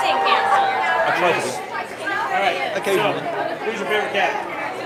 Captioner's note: applause